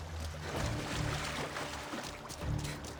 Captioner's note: none